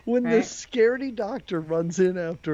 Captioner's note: laughing